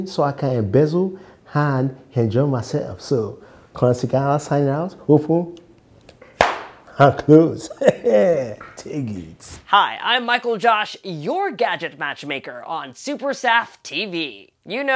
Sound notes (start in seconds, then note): 7.5 laughs